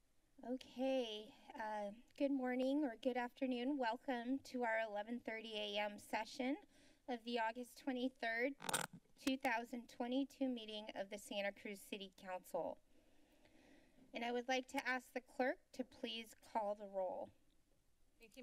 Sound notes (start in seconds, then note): 0.0 silence; 8.6 glitching sound; 13.1 silence